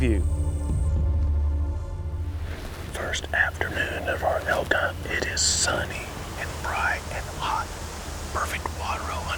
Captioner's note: whispering